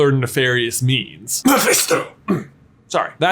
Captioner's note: while sneezing